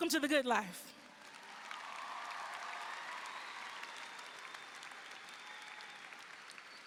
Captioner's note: audience applauding; audience cheering